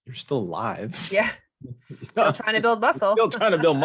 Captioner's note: chuckles